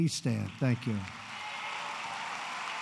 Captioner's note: applause